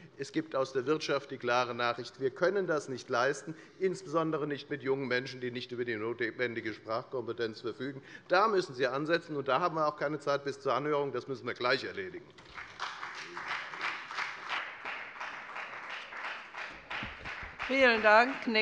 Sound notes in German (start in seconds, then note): 12.3 Beifall bei der FDP und bei Abgeordneten der SPD